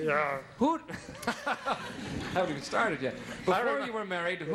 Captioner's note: laughing